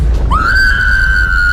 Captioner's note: screams